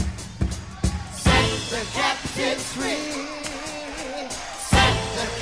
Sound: audience clapping

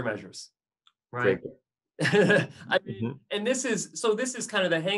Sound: laughs

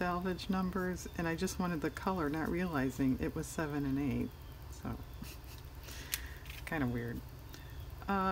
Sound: laughs

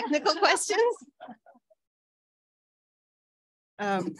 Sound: all laughing

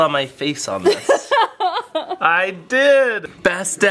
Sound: laughs

